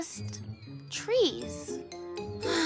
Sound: sigh

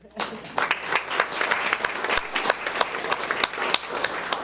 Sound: audience applauds

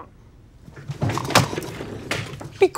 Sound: slams headphones

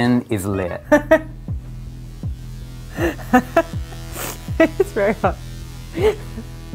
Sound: laughing

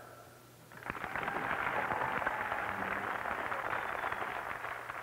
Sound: applause

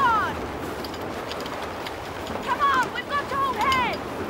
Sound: wind whooshing

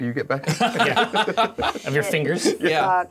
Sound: co-hosts laughing

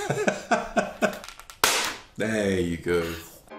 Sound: laughing; plastic popping

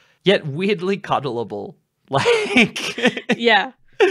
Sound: laughs

